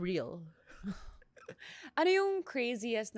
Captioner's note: laughs